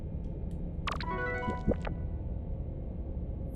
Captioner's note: success chime; digital warble